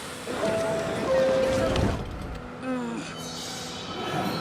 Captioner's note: train beeping; train squeaking